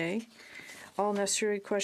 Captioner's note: speaking French